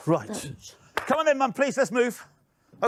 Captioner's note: clapping hands